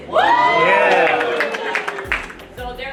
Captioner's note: crowd; crowd cheering and applauding